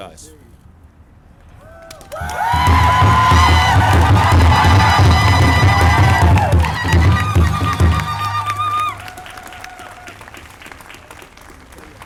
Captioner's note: drums/applause